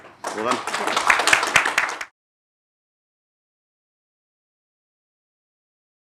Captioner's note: attendees applauding